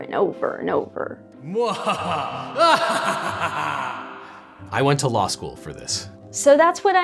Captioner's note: sigh